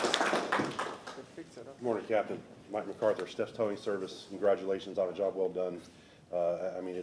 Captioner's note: applause